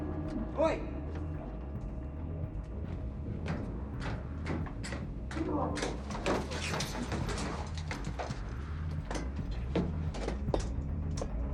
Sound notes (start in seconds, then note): 1.4 ship creaking; 6.4 footsteps thudding; 6.4 ship creaking